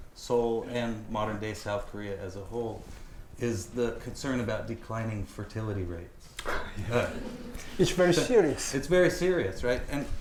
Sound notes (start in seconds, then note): 6.7 chuckles; 6.8 audience chuckling